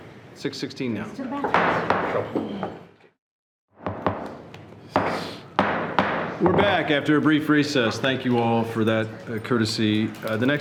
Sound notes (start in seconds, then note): 5.6 gavel banging